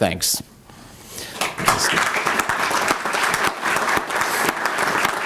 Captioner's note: applause